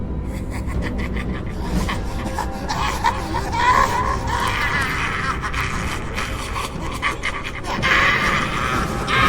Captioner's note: sinister music; sinister cackling